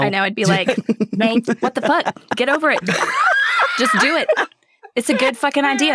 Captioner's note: cross laughter